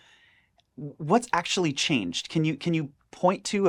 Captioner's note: none